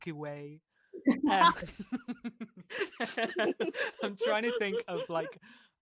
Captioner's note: laughter